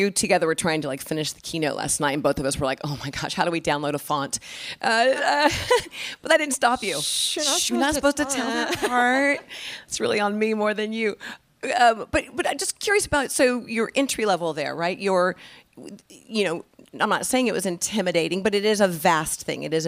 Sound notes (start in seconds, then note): 9.3 laughing